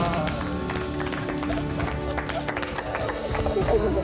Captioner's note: everyone applauds